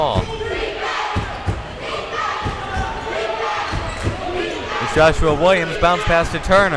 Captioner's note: crowd chanting defense